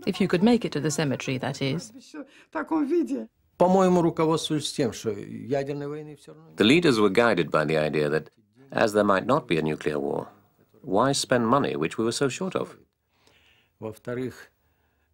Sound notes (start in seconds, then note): 3.8 speaking Russian